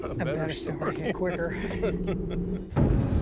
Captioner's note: laughs